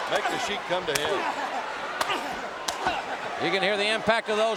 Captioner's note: hands thudding